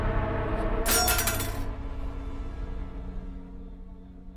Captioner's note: knife rattling